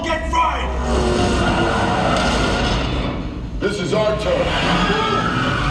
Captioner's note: engine roars; tires squeal